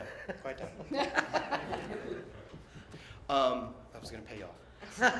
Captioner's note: laughter